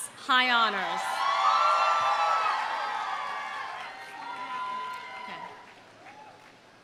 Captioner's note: audience cheering; audience applauding